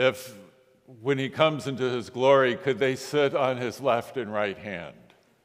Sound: none

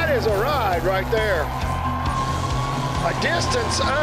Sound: crowd hollering

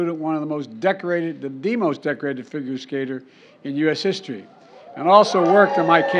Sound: applause

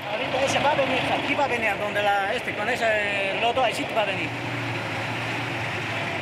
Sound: driver speaking in foreign language

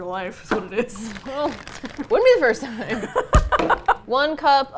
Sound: laughing; laughs

